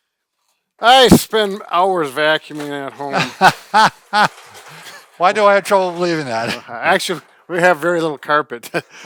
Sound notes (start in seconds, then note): 2.0 wheels clattering; 3.1 laughing